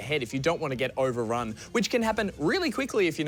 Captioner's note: none